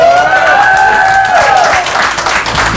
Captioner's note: cheers and applause